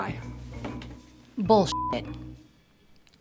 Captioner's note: beep